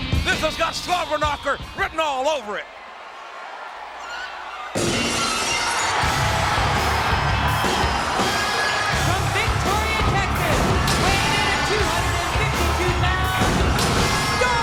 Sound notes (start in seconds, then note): 4.3 crowd cheering; 4.8 glass shattering; 6.6 upbeat music; 9.3 announcer speaking faintly off mic